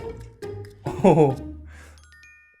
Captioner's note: laughing